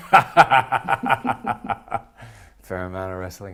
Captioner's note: laughs